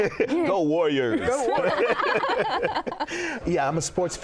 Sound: laughter

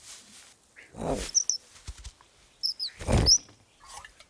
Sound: growling; frantic chirping

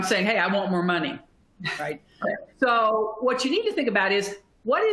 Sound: laughter

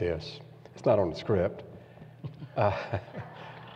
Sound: laughing

